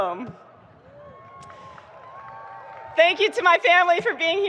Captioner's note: audience cheering and applauding